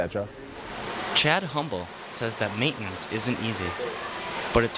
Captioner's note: voiceover